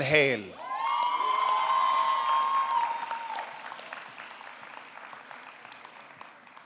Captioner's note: audience clapping; audience cheering